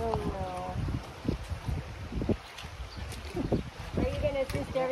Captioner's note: water flowing